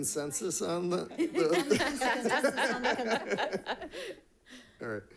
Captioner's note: all laughing